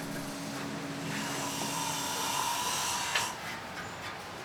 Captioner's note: tool whirring